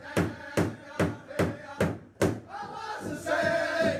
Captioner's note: none